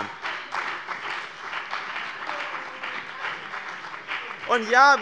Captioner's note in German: Beifall bei dem BÜNDNIS 90/DIE GRÜNEN und der CDU - Zuruf von der SPD: Wo denn?